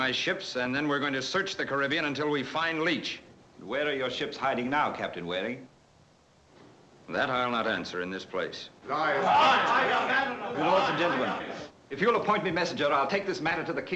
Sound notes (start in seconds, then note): 8.8 commotion